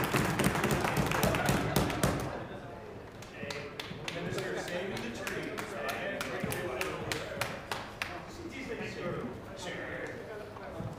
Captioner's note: applause